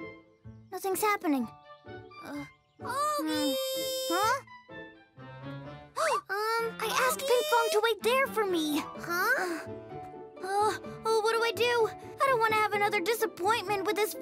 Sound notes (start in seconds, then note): 6.0 gasps